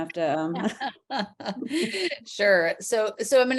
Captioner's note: chuckles